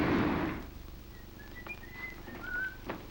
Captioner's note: whistles